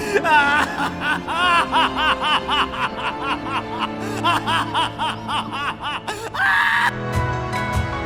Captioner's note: meniacal laugh